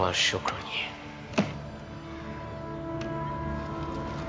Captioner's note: slaps